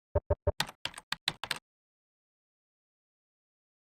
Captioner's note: keys clicking